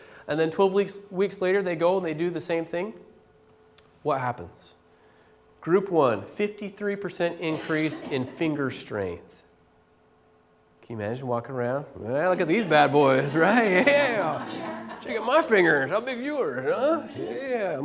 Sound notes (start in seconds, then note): 12.4 laughter